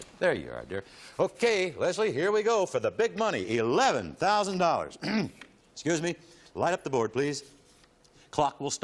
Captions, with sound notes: OK, very good. There you are, dear. OK, Leslie, here we go. For the big money, $11,000. [clears throat] Excuse me. Light up the board, please.